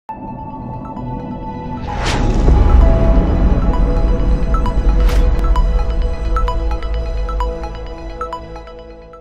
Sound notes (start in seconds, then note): 0.3 uplifting electronic music; 1.8 impact rumbling